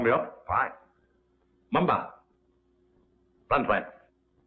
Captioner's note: foreign language